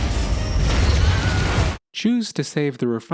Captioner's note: explosion